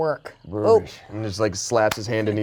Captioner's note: grunts